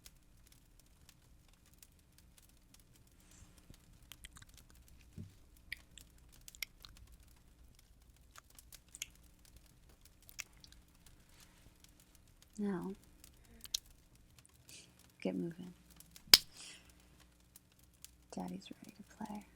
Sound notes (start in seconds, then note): 1.3 spank